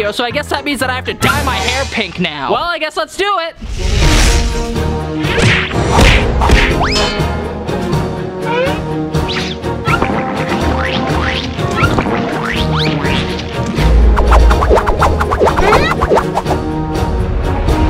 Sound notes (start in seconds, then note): 4.0 epic music; 5.9 cartoon banging; 9.9 cartoon squirting